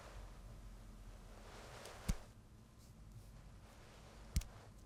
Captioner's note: hands slap on marble